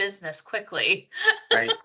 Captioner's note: laughs